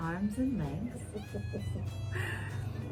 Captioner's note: ho-ho-ho chuckles